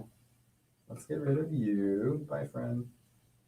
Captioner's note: none